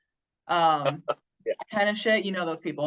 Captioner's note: chuckles